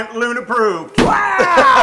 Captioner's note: laugh